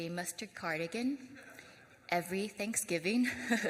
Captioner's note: laughs